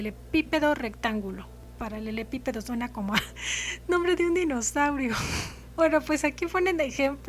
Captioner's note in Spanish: risa